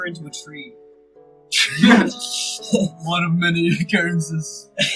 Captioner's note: laughter